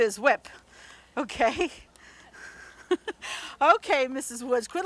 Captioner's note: giggles